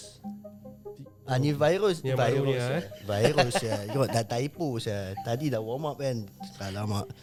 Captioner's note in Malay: ketawa